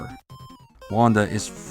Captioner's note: silence!